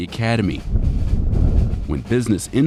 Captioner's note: wind whipping